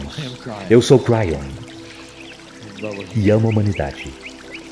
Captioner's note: laughs